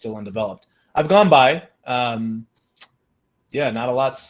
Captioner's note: tongue clicks